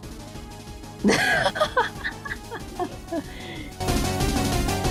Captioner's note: absolutely loses it